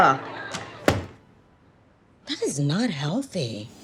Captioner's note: laptop thudding